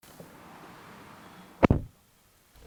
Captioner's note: door Thud